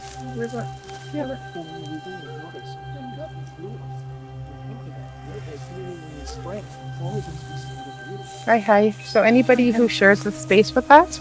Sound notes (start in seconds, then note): 8.5 speaking in Cree